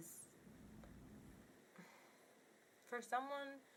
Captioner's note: sighs